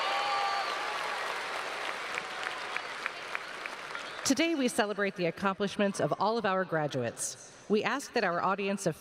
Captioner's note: cheers and applause